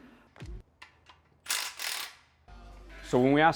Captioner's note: whirring